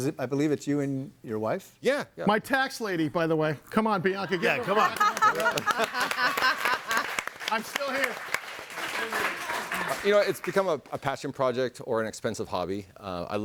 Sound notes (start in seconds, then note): 4.4 audience applauding